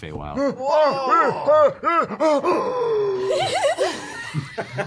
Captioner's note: surprised noises